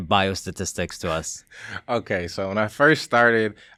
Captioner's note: laughing